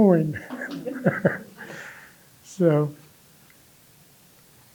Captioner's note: chuckles